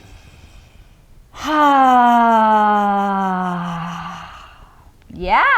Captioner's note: sighing deeply